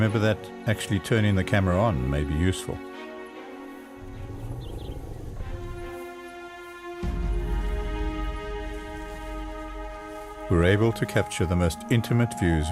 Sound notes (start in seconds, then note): 3.8 elephant rumbles